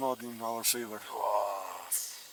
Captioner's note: huffs